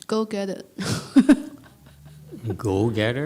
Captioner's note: speaker laughs